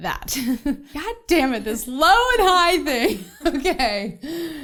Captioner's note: laughs